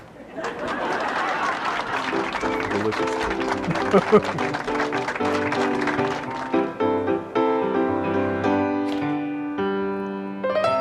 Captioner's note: laughter